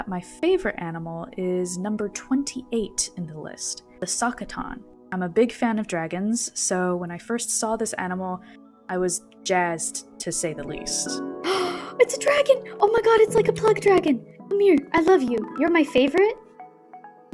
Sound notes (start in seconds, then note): 11.4 gasp